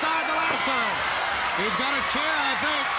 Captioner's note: crowd cheering